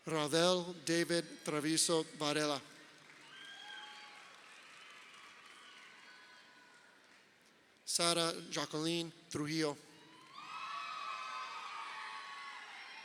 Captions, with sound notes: Raudel David Trevizo Varela. (crowd cheering) Sara Jacqueline Trijillo. (crowd cheering)